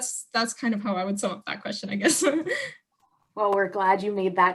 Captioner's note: chuckles